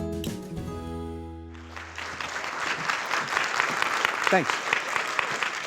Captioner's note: audience clapping